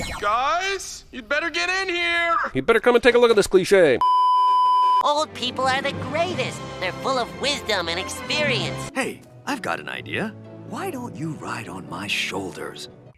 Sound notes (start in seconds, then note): 4.0 beeeeeeeeeeeep